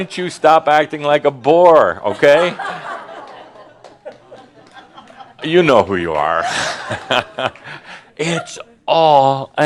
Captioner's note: Adamus chuckles